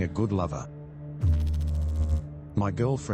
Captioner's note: electrical noise